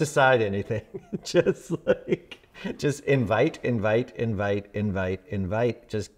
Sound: laughs

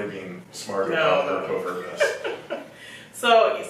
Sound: laughs

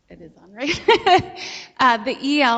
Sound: laughs

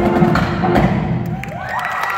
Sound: song ends, applause

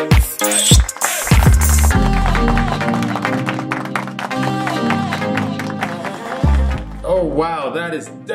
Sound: applause

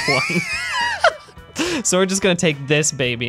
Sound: laughing

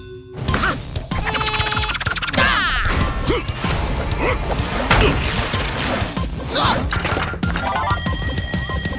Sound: grunting

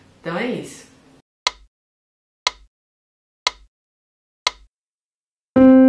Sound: metronome

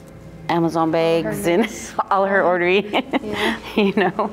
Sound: laughs

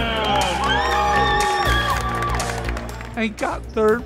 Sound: applause

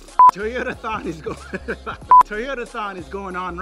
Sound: blowing raspberry; laughing

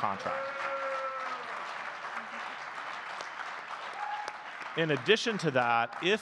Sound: audience clapping and cheering

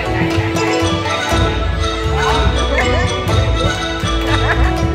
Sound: everybody laughed

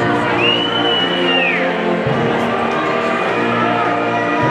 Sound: people whistling

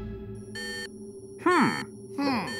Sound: beeping

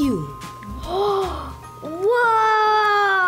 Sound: gasps

